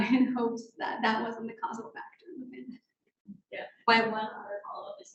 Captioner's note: speaking faintly off mic